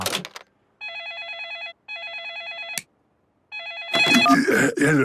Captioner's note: phone ringing